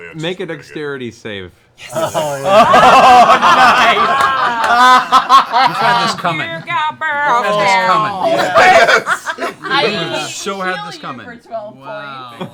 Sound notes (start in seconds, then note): 1.9 laughter